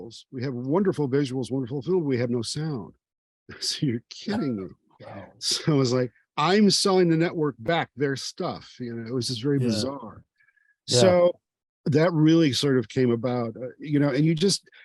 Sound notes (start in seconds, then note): 5.4 chuckling